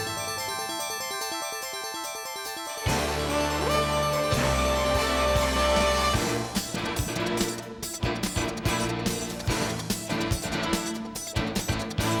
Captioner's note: gavel